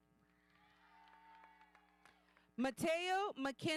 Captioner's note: audience cheering